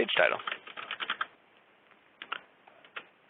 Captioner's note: keyboard clicking